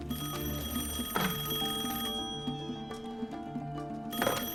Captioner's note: rings